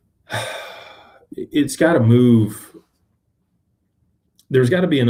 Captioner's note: sighs and gasps